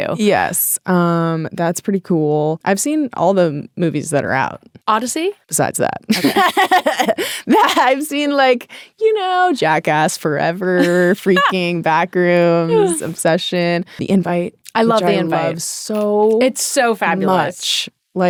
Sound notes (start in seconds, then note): 6.2 laughing